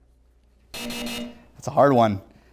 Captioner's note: buzzer